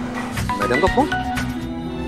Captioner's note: Phone ringing